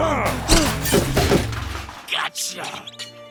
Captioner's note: heavy objects crash; mouse squeaks in gratitude